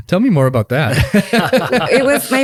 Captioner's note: laugh